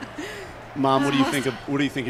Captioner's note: laughter